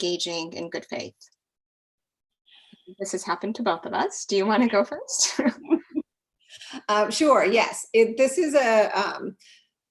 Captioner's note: laugh